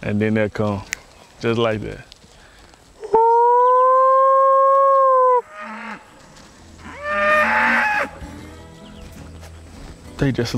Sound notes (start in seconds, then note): 3.1 howling; 6.7 cattle calling